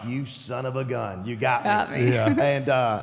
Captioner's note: chuckles